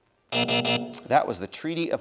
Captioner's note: buzzer